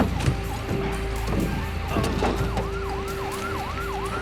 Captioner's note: siren approaches